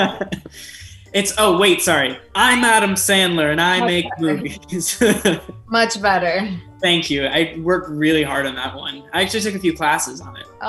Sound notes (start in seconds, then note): 0.0 group laughs; 5.2 laughs